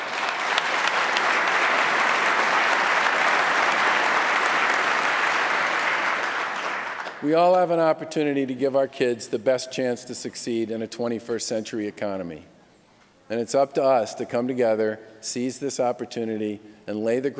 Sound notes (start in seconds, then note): 4.9 applause